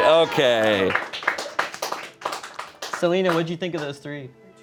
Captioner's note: crew applauds